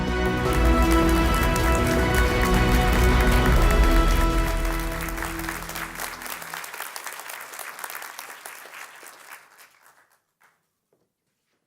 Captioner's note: clapping